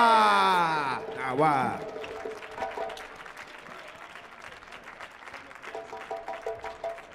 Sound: crowd applauding

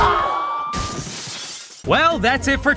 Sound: glass shatters

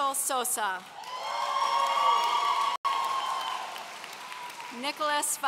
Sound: audience cheering

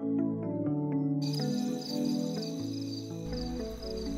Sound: crickets Chirping

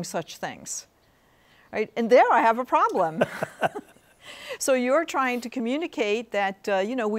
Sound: both laughing

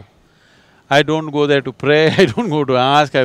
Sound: laughs

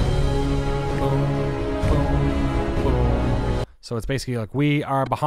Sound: music swells; humming along

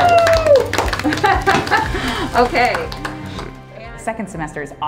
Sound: chuckles; pops

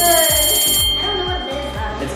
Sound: bell ringing

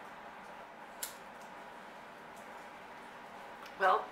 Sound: lighter flicks

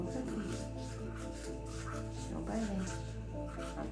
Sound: toothbrush rubbing

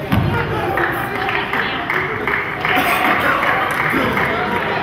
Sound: crowd claps

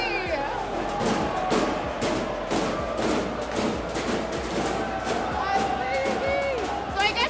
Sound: fans cheering; loud banging

